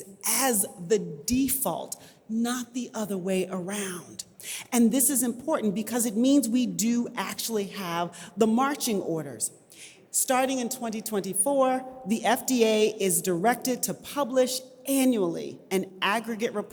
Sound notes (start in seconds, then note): none